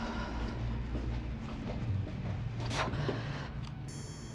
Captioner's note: Jane exhaling